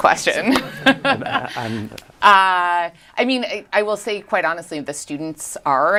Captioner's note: laughs